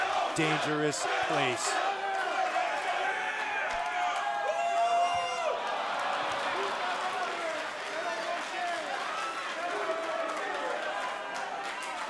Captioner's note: crowd cheering